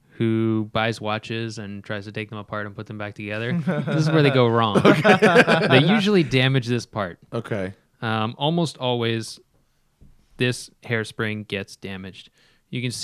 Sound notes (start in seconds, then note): 4.6 laughter